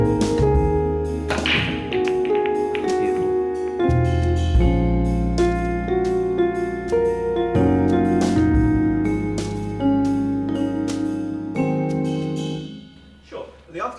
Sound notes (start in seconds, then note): 1.2 balls clattering, beautiful